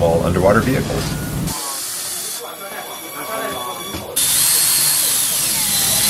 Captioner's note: drilling